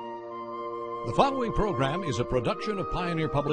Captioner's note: serene music; voiceover